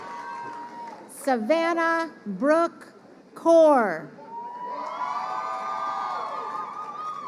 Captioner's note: crowd cheering